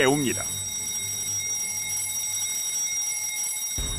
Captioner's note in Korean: 알람 소리